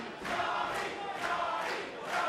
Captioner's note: fans chanting